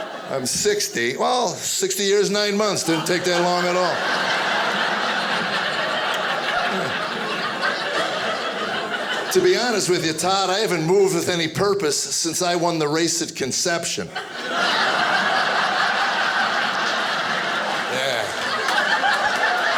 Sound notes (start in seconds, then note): 4.6 audience laughing; 14.0 audience laughing